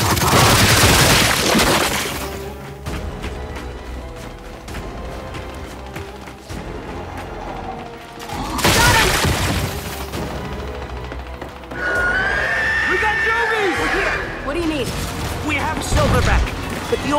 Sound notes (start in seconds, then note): 8.6 gunfire